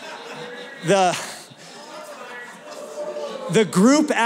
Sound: laughter; yelling

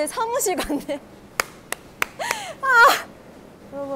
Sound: applauding like a seal

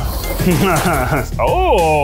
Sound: chuckles

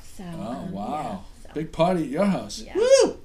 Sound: voiceover

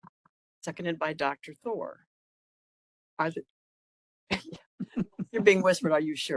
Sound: laughing

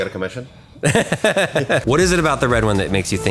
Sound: laughing

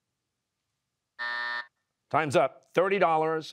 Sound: buzzer

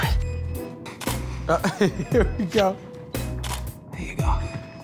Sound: camera shutter clicks

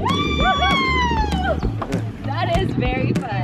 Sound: mom screams

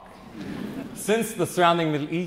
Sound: audience chuckles

